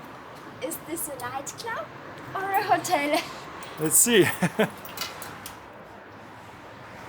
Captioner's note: laughing